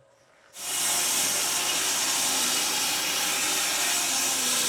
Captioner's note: saw buzzing